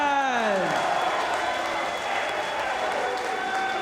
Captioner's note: spectators cheering